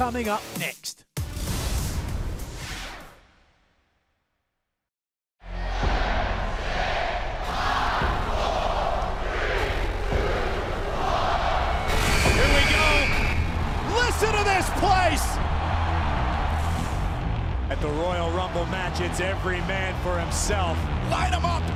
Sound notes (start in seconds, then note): 7.8 fans chanting; 11.4 buzzer